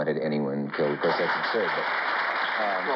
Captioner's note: applause